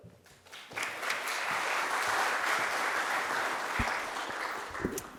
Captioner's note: audience applauding